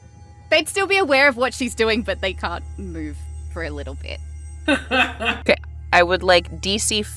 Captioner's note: chuckles